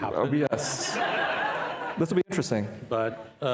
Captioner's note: participants laughing